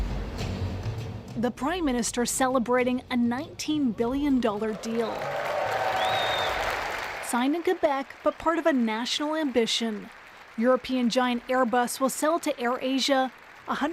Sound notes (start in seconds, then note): 7.2 cheers and Applause